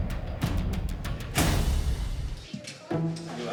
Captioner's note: slams door